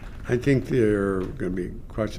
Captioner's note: applause